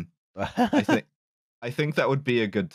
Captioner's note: laughs